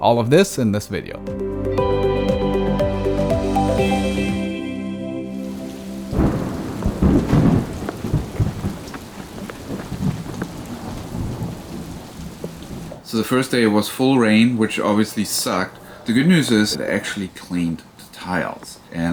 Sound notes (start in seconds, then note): 1.1 upbeat music; 6.0 rain splattering